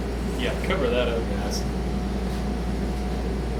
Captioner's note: none